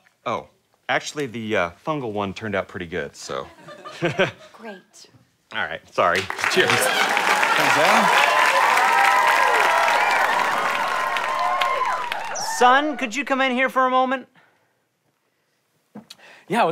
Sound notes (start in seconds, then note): 4.2 laughs; 8.8 audience cheering